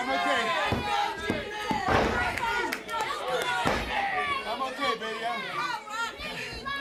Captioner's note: crowd cheering